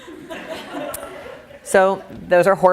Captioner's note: laughing